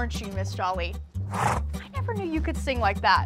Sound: horse snorts

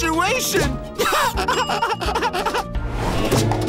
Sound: laughing

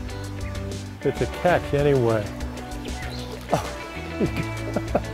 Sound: chuckling

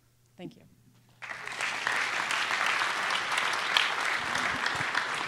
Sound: applause

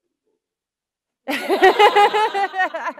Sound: laughter

